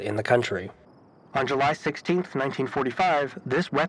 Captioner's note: radio static effect